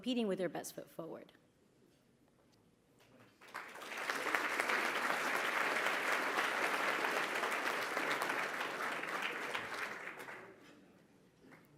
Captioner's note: applause